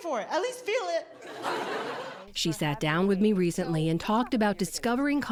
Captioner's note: laughter